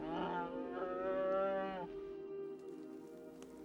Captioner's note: bear growls